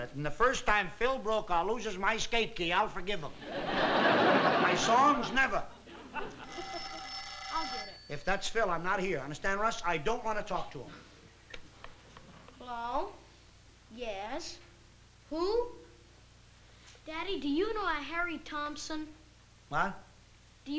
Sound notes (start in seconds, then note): 6.2 house phone ringing